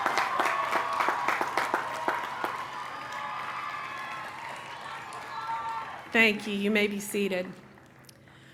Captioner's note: cheering